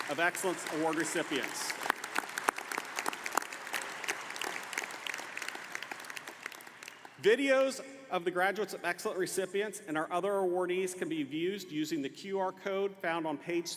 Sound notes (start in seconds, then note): 5.8 applause